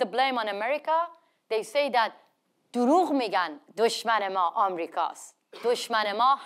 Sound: speaks in foreign language

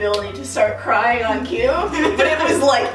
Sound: laughing

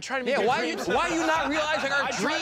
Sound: laughter

